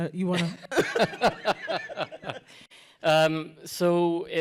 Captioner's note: laughter